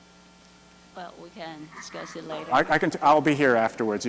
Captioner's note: voiceover